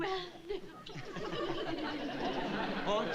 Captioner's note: giggling